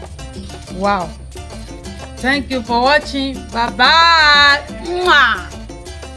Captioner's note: kisses